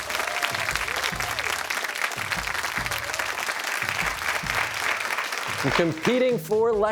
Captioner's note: cheers and applause